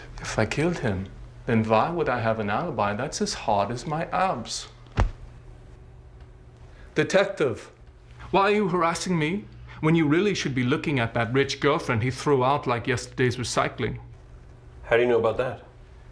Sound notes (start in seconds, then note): 4.8 thuds